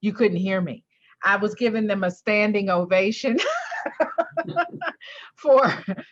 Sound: laughs

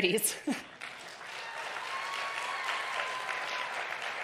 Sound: audience cheering

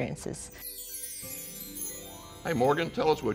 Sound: transition chiming

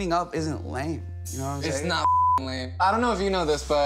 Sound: beep

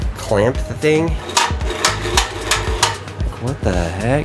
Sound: clamps banging

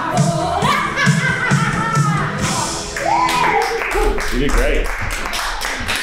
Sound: laughs; crowd clapping

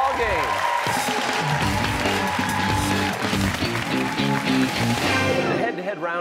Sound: cheers and applause

